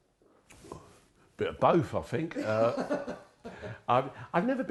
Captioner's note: laughing